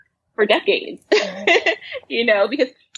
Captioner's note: laughs